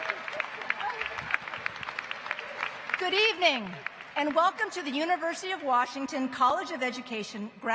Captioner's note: applause